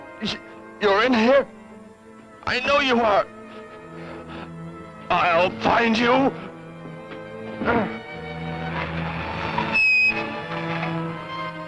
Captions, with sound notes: Huh-- you're in here! I know you are! I'll find you! [ BRAKES SCREECHING ]